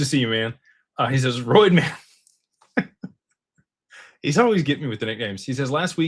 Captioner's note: laughter